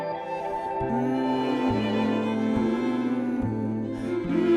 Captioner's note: humming